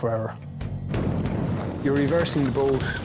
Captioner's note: intense music; wind whooshing